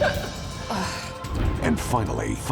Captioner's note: laughs; dater groans